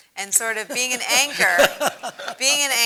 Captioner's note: laugh